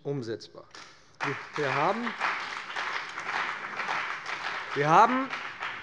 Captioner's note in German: Beifall bei dem BÜNDNIS 90/DIE GRÜNEN und der CDU